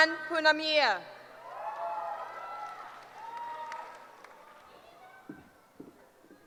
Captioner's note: cheering